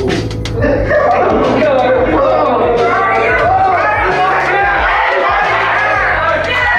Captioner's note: students shouting